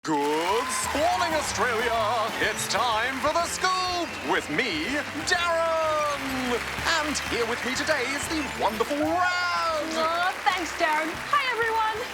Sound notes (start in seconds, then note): 5.3 canned applause; 11.4 applause cont